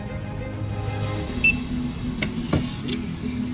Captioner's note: purchase beep